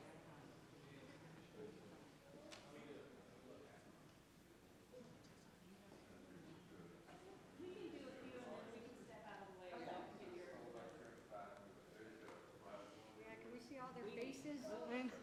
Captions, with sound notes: (audience chattering) - Can we see all their faces?